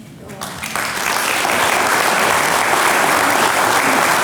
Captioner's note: audience clapping